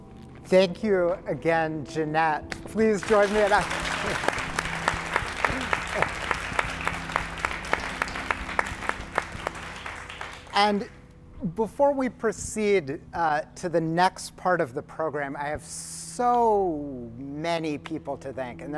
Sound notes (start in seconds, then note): 3.0 applause